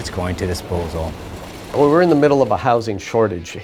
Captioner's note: rubble rustling